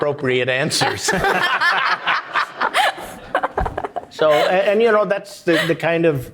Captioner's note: audience applauding